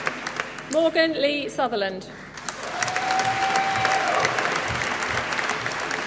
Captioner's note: applause